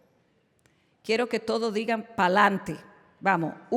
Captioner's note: non-english speech